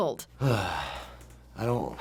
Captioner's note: sighs